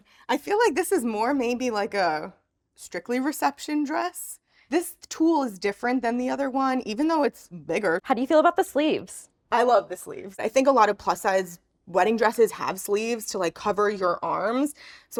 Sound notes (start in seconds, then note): none